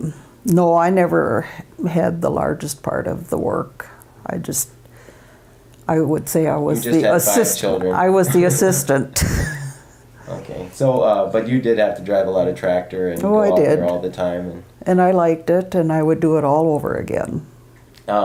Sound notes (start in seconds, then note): 8.0 laughs; 8.2 both laugh